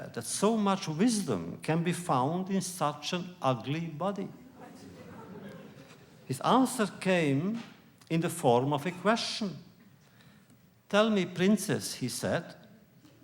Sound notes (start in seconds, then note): 4.5 laughter